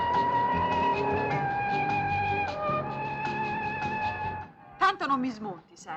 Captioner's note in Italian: urlo